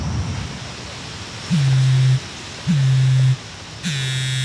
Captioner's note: phone buzzing